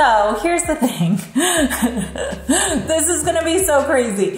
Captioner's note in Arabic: يضحك